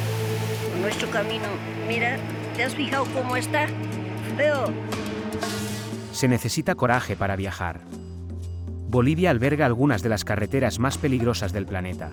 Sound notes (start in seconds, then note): 1.3 woman in mauve speaking in foreign language